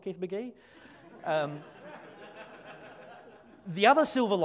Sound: audience laughs

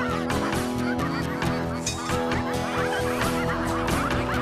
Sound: ducks Quacking

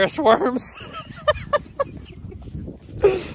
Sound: Tertawa

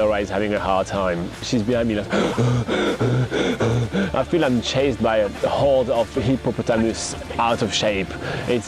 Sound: heavy breathing

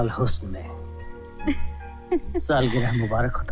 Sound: chuckles

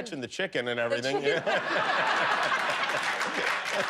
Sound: laughter

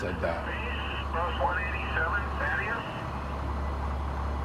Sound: radio communication

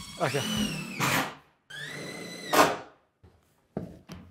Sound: drill whirring

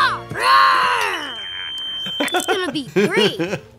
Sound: hearing aid beeps

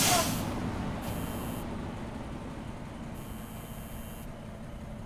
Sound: steam hisses; screen buzzes

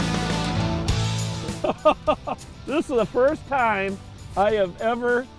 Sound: laughing

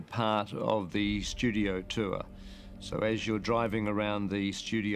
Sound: none

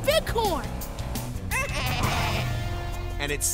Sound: bleating

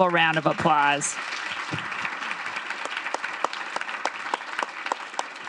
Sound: audience clapping

